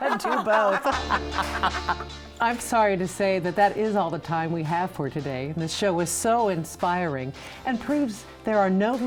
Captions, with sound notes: (laughing) - Or Vicki Schmidt, I can do both. (laughing) (upbeat music) I'm sorry to say that that is all the time we have for today. And this show is so inspiring